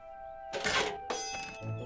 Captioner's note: signal Clangs